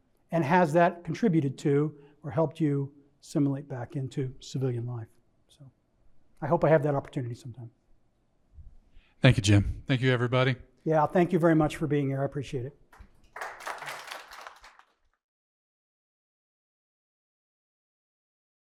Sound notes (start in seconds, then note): 12.9 audience applauding